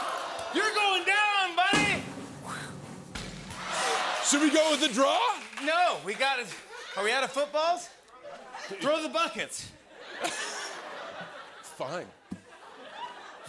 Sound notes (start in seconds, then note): 3.6 audience ohs; 9.8 laughter